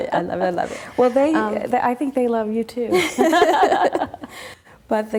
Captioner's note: laughs